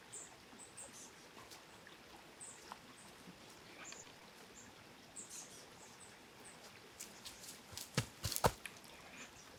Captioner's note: water continuing